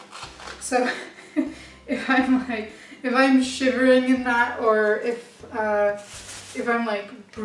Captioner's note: laughs